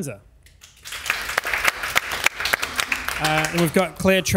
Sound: audience applauds

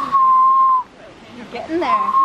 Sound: whistles

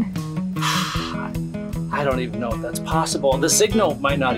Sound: sighing

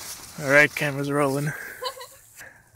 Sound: laughs

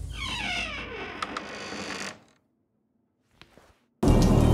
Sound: door creaking

